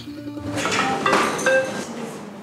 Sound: ring

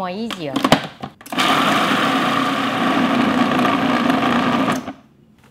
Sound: food processor whirrs

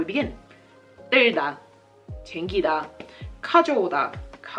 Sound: speaking Korean

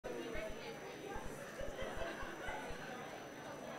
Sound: crowd chattering

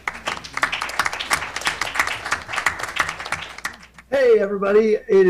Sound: audience clapping

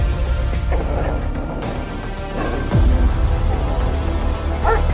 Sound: Willamina growling; Willamina barking

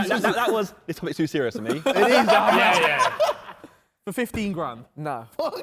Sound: man laughing

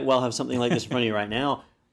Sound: laugh

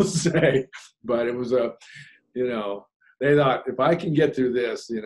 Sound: laughs

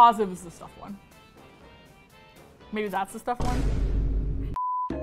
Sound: dramatic sound

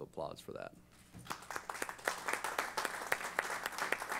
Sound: applause

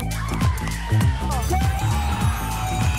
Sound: cheering

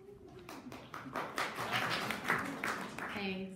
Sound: audience applauding

